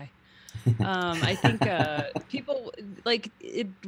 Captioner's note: chuckling